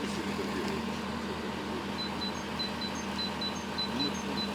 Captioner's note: the sound of running engines